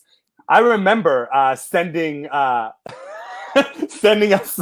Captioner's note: laughs